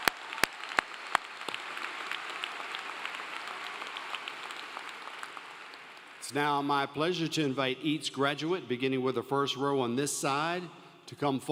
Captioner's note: applause